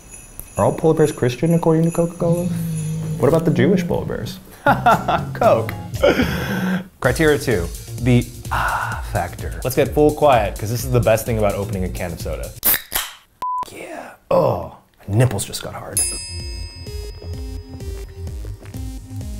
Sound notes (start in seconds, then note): 4.7 laughs; 12.6 soda can pops; 13.4 beep; 16.0 ding